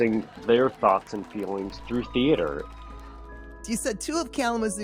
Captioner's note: audience clapping